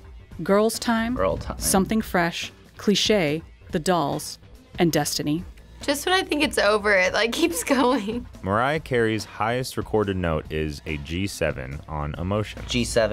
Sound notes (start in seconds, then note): 7.3 laughs